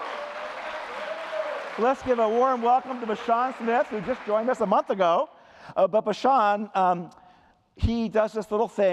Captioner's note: applause